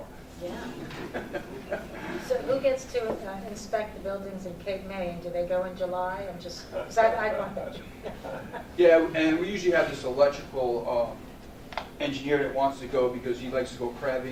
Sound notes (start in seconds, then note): 0.5 laughing; 7.8 laughter